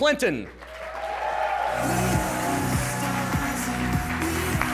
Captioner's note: cheering, applause, and music playing